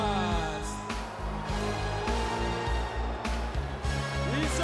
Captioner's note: crowd shouting